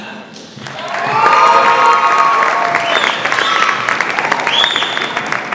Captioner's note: audience applauds